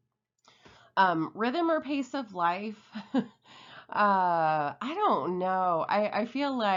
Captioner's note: laughs